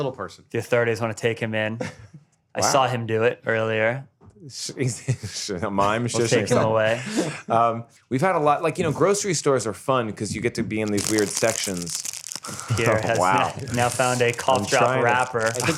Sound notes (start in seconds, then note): 4.8 chuckles; 10.8 crinkling